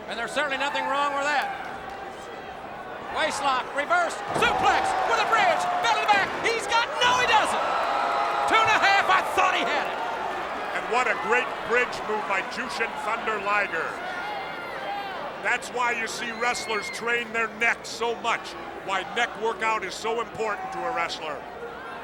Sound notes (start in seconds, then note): 4.2 body thudding; 4.2 hands thudding